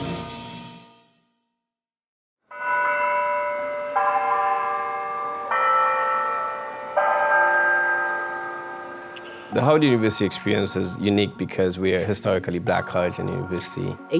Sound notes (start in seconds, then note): 2.5 clock bells chime